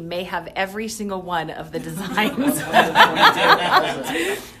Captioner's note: laughs